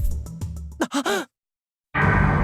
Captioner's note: gasp